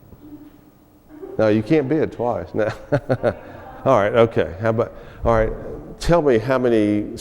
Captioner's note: laughs